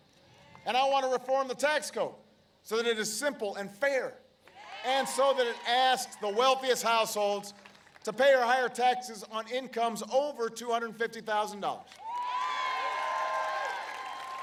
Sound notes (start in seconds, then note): 11.9 applause